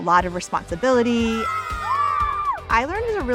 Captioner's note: students cheering